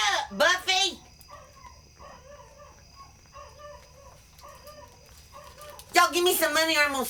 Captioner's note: dog howling